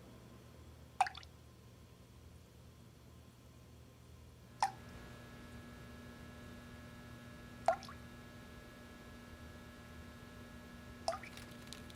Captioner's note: dripping tap, buzzing sound